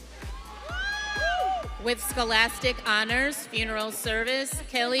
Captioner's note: audience cheering